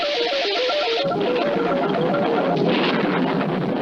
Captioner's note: thunder Strikes